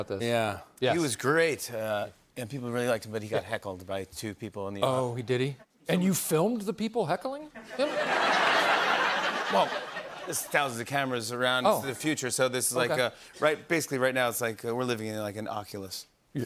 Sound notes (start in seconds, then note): 7.6 laughter